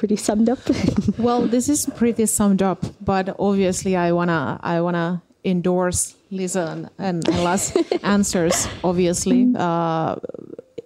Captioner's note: naurua